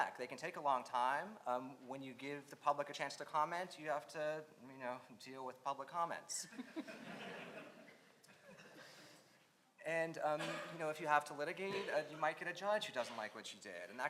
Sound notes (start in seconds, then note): 6.6 audience laughs